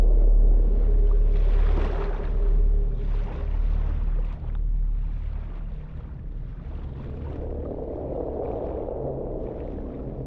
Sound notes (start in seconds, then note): 0.0 moving water